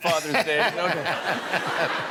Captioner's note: laughter